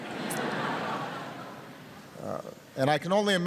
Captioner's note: laughter